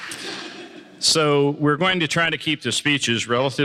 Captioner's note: applause